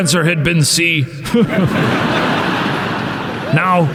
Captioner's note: crowd laughs